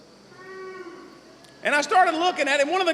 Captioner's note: some boos